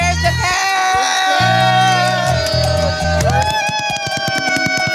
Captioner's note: screaming